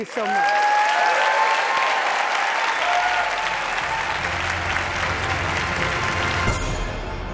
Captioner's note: applause